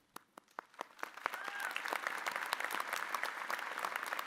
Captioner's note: audience applauding